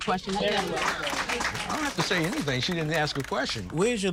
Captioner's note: applause